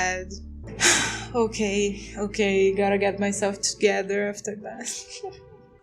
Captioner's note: sigh